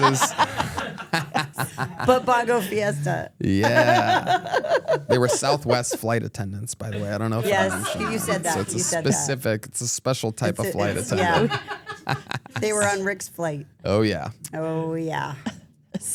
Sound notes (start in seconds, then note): 0.0 everyone laughs; 3.5 laughs; 10.4 Tony and crew laugh